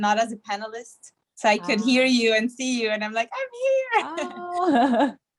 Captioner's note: laugh